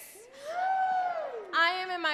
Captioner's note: man cheers